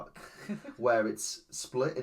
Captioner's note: giggles